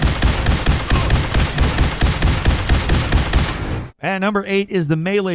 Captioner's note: soldier grunts